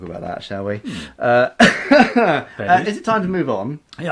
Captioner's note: laughing